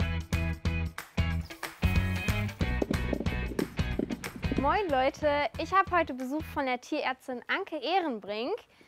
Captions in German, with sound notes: (Rumpeln) Moin, Leute. Ich hab heute Besuch von der Tierärztin Anke Ehrenbrink.